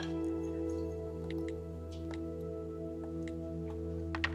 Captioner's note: phone clicking